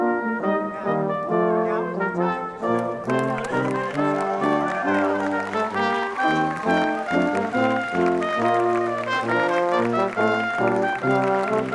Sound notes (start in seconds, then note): 2.6 applauding; 4.0 dramatic instrumental music